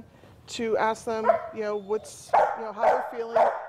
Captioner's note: dog barking